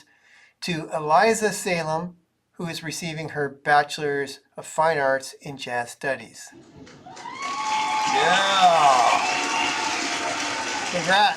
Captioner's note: cheering sounds